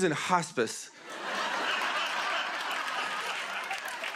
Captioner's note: laughter